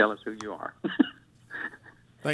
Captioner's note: laughter